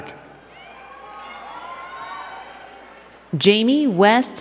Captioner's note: crowd cheering and clapping